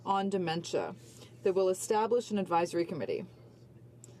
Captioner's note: none